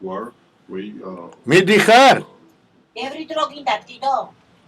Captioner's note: switches from Russian to Georgian